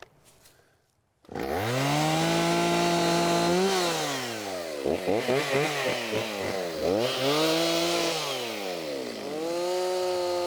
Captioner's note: chainsaw buzzing